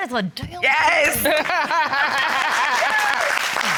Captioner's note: laughs